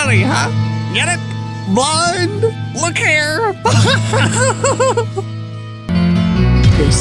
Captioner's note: chuckles; laughs